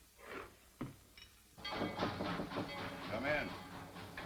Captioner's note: knock on door